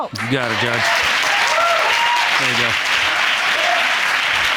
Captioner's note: audience applauding